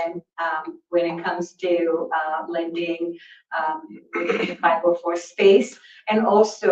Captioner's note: clears throat